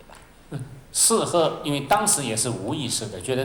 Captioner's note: Mandarin